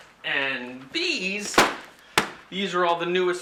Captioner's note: thud